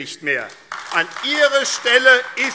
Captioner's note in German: Beifall AfD